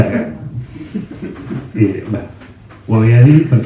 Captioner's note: discreet laughs